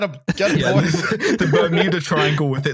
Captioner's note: laughter